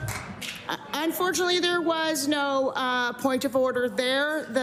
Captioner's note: applause